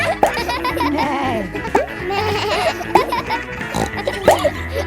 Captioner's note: bleats; neighs; snorts